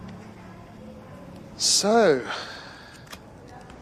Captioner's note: sighs